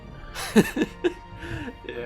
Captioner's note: смеётся